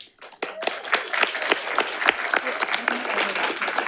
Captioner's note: audience applauding